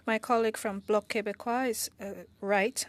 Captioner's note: speaking French